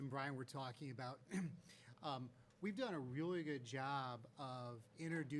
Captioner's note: clears throat